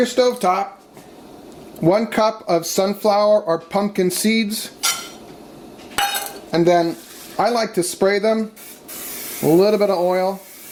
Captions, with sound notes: On your stove top, one cup of sunflower or pumpkin seeds. (seeds clank against pan) And then I like to spray them. (aerosol spraying) A little bit of oil.